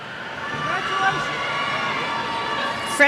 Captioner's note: cheers